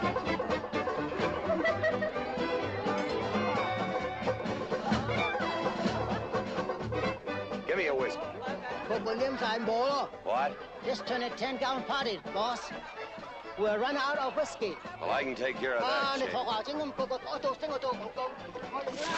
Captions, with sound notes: Give me a whiskey. (SPEAKING CHINESE) What? This turn a 10-gallon party, boss. We're run out of whiskey. Oh, I can take care of that, Ching. (SPEAKING CHINESE)